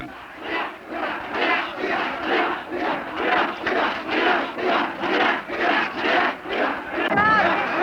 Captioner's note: chanting